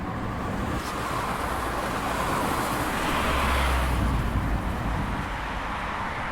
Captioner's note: traffic noise